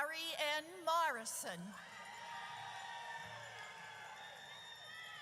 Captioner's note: audience cheers